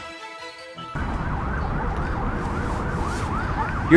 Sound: police car siren

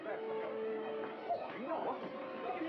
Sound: crowd chattering

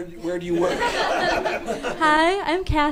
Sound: audience laughing

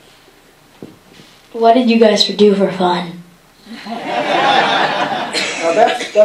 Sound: laughter

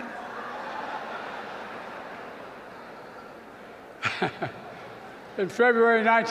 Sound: laughter

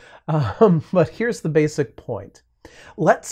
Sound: chuckles

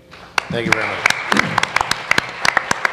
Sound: applause

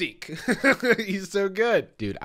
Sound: laughs

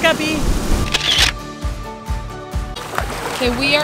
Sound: camera clicks

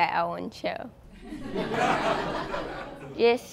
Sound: laughter

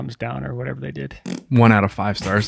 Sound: spitting sound

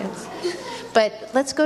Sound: audience laughs

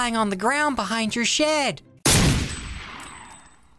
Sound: gunshot

